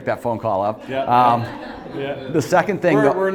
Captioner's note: audience laughing